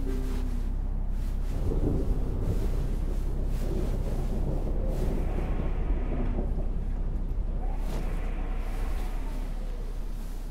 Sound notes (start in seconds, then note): 1.9 thunder rumbling